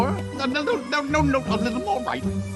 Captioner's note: none